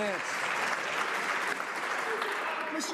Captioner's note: some Applause